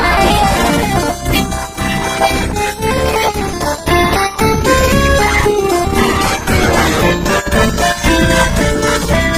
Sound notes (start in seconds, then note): 4.8 wails